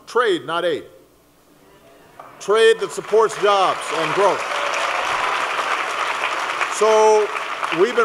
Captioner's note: applause